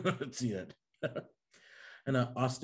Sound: interview chuckling

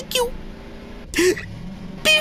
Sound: final gasp of defeat

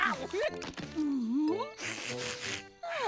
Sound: sniffing; sighing

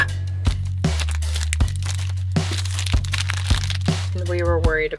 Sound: wrappers crinkling

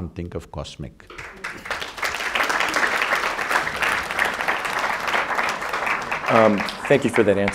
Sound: applause

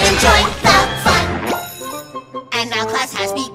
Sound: bell rings

